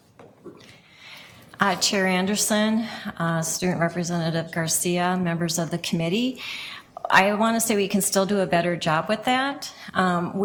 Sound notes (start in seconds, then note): none